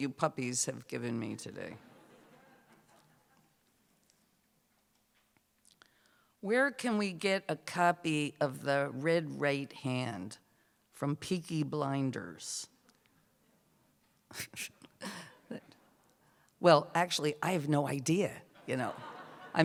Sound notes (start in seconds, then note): 15.4 chuckles; 18.6 laughter